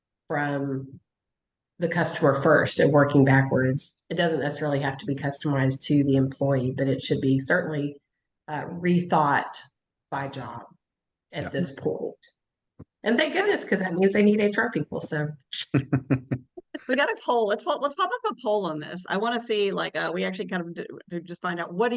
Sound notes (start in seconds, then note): 15.7 chuckling